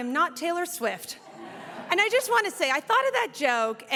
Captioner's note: audience laughs